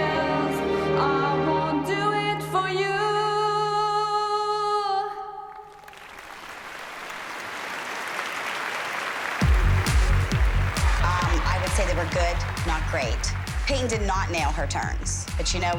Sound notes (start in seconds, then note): 5.2 applause